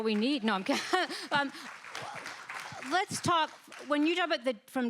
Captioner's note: applause